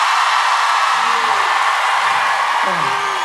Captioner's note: cheering